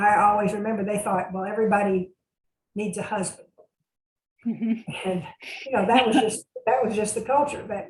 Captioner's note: laughs